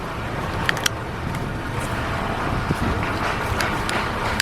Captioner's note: nut snaps